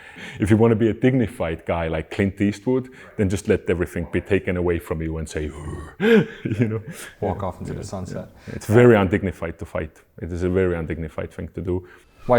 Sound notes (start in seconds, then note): 5.4 growls